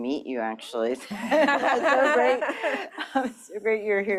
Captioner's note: laughter